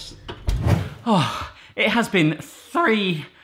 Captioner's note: gasping